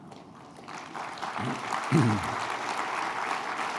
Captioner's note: applause